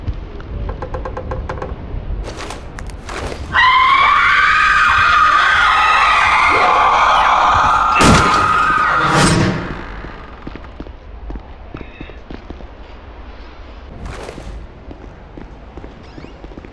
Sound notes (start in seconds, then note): 0.4 slow creaking; 3.5 frantic demonic screams; 7.9 doors slamming open; 9.0 doors slamming shut; 16.0 door creaking open